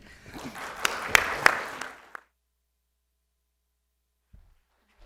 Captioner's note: audience applauds